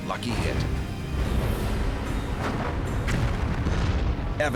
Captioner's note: explosions booming